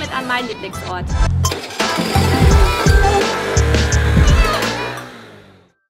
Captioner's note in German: Motor-Geräusche